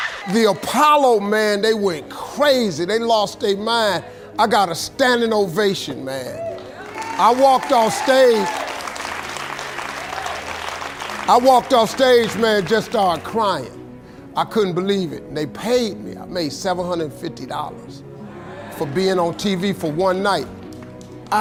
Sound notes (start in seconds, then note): 9.2 audience applauding